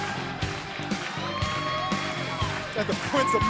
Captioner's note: cheers and applause